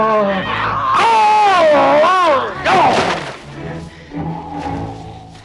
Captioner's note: Torente yelling; Torente exhales; dramatic music